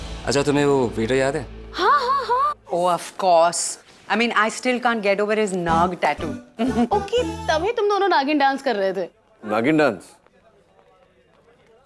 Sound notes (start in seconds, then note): 6.6 Ananya laughs